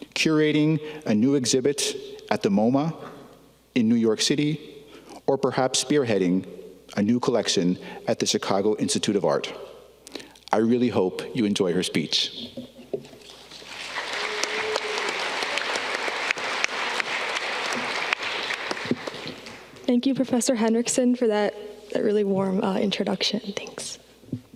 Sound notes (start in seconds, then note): 13.3 audience clapping